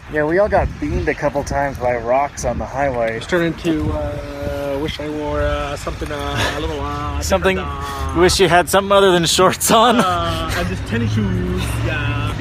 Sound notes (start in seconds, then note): 6.0 laughs